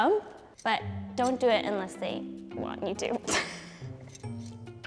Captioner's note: laughs